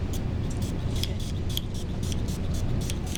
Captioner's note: sprays